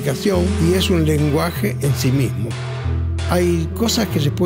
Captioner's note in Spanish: golpe de martillo